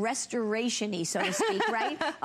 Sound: laughter

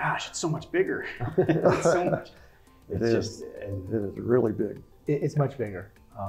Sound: laugh

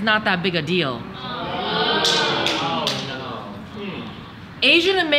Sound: audience jeers

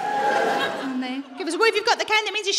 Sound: a few people whoop

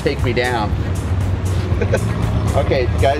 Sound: laughing

